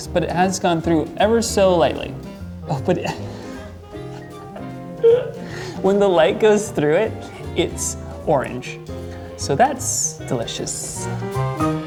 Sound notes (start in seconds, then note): 2.9 laughing